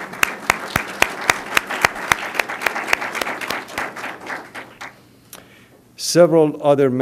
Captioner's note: applause